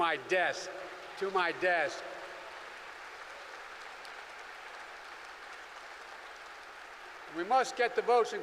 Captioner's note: applause